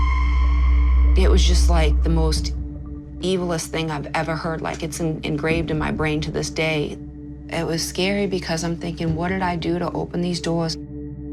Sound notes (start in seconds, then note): none